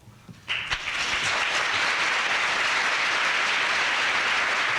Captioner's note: applause